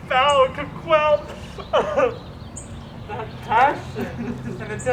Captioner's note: sobbing